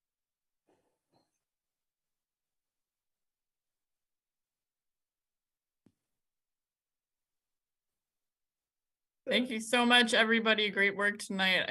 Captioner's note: recording stopped